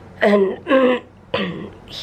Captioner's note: clears throat